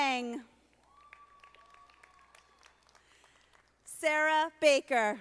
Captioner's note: audience applauding